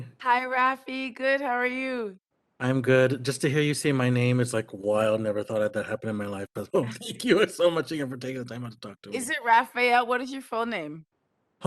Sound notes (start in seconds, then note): 6.6 laughs